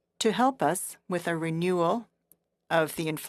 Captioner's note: speaking FRENCH